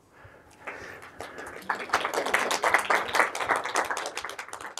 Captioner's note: audience applauds